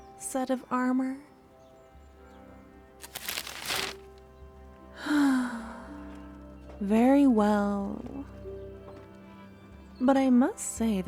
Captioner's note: sigh